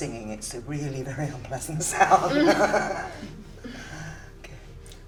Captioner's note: laughing